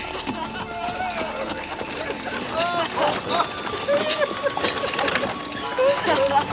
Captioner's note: Ned and Crecencio laugh; warm music